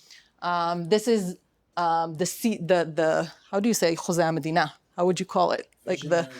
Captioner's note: non-english speech